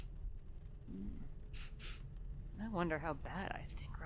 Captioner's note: audibly sniffs the air, an almost canine like shnuffling